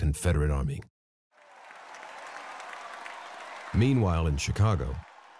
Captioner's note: crowd cheering